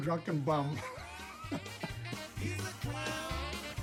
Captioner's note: laughs